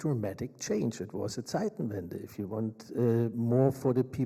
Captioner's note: speaks in German